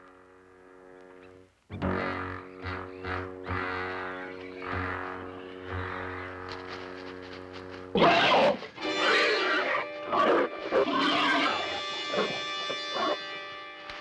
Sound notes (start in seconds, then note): 8.0 screeching